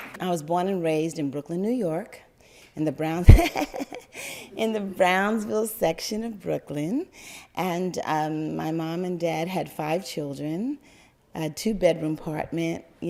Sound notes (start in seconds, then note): 3.2 laugther